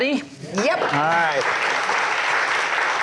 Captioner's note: audience applauds